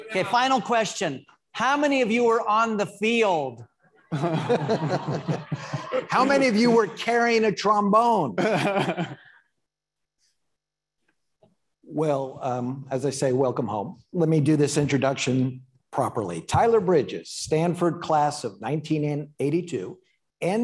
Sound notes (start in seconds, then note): 4.0 audience laughing; 8.4 laughs